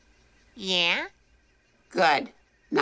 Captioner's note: insects trilling